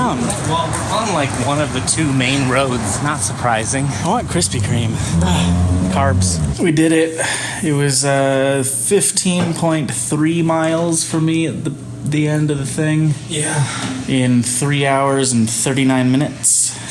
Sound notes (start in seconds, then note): 4.0 frustrated noise; 7.1 loud exhale